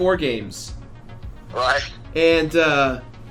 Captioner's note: laughs